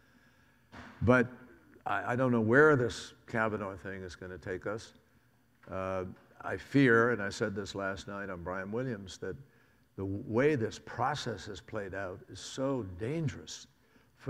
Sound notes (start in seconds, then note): none